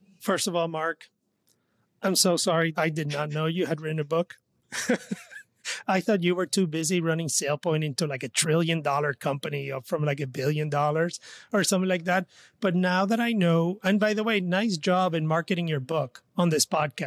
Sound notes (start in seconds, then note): 4.7 laughs